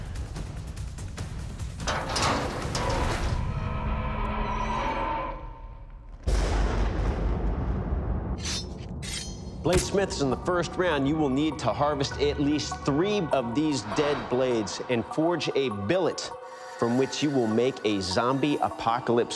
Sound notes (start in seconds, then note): 0.0 dramatic music playing; 1.9 eerie metallic creaking; 6.2 thunder rumbling